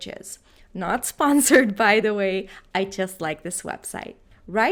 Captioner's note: laughs